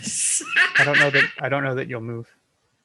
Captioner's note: laughing